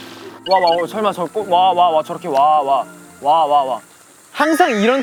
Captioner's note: like robot repeating 'wa'